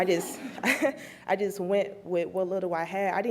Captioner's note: laughs; laughs